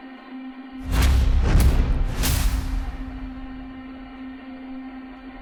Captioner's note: tense music continues; images thudding; tense music continues